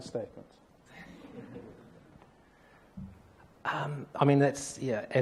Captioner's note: audience laughs